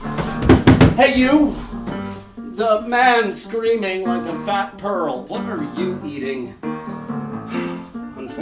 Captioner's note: knocking